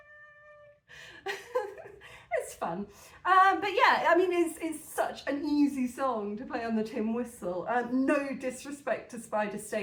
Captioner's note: laughing